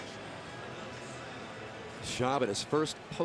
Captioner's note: pa announcement